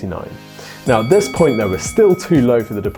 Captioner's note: bell dinging; cash register ringing